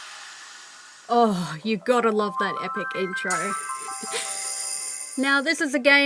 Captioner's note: laughter